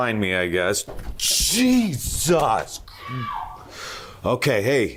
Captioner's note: voice screaming